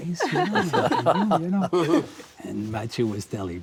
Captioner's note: all laugh